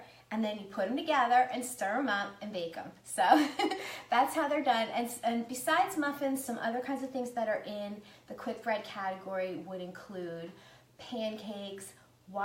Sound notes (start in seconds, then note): 3.3 laughs